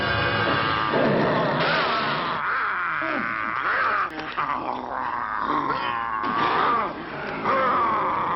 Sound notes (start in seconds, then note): 1.6 gunshot firing; 4.1 werewolf growling